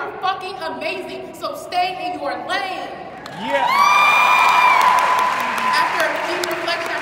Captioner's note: audience cheering